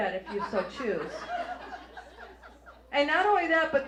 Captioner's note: audience laughs